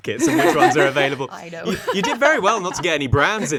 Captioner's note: laughing